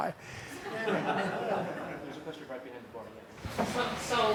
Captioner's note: laughter